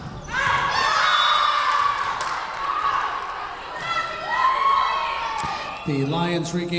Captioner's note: Lions cheering; whistle blowing